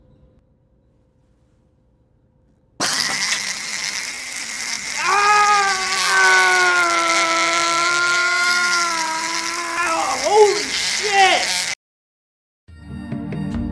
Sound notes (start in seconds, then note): 2.8 shrill Screaming; 5.0 researcher Screams